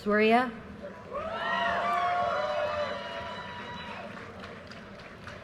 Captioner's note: audience cheers and applause